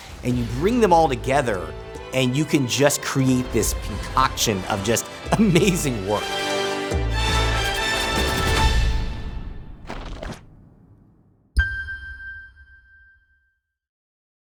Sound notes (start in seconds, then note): 6.9 epic music ending; 9.8 Glitch; 11.6 ding reverberates